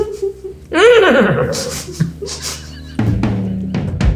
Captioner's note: neighing